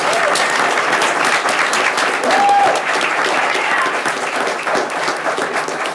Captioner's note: people cheering; people clapping